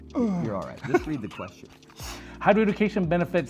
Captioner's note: laughs